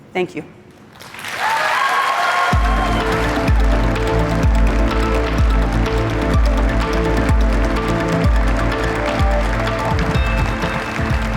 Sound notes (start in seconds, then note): 0.9 applause/cheering/music playing